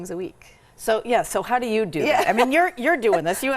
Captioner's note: laughs